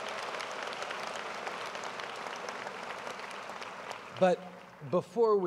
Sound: applause

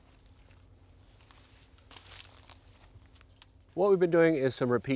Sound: grass crunches

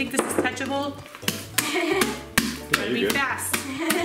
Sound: laughing

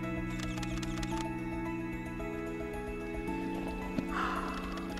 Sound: camera clicking

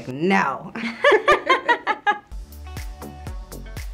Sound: laughs; upbeat music

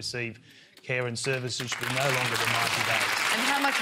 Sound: applause

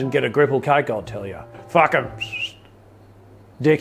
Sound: whistles

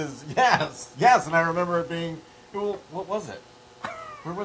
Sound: laugh

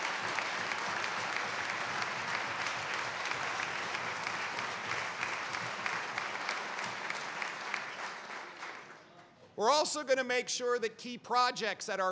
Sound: applause

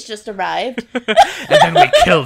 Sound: laughs

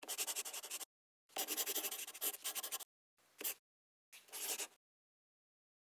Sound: the sound of a pen scratching

